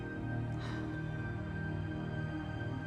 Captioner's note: exhaling